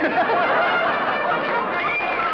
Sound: laughter

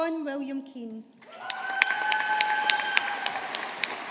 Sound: audience applauding

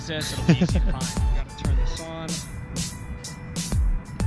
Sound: drone

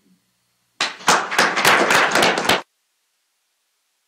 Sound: applause

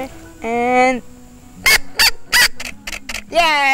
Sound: squeaking

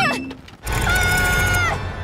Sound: screaming

